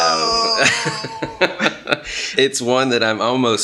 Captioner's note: groans; chuckles